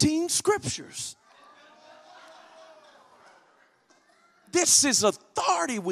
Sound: congregation laughs

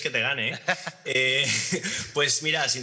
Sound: some laugh

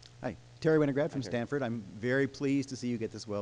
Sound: voiceover

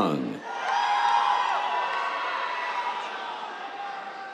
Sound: cheers

